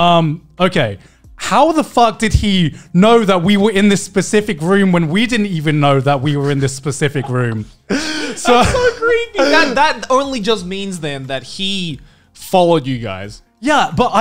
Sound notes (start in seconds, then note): 6.3 men laughing